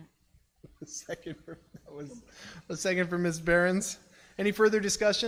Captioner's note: laughs